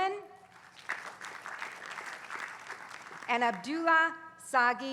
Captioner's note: applause